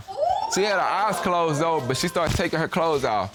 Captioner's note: audience exclaim